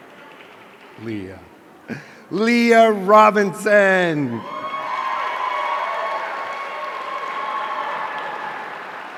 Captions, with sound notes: Leah Robinson! (audience cheering)